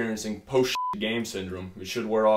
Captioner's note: beeps